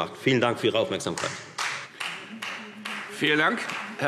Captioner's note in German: Beifall Freie Demokraten